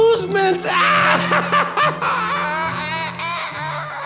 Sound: laughs maniacally

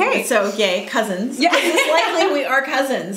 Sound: laughs

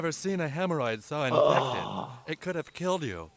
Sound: groans

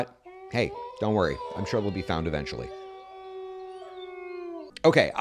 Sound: wolves in distance

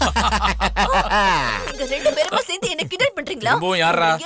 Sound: laughs; phone rings

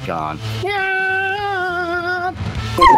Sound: screaming

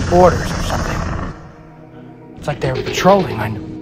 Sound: raptor Hissing

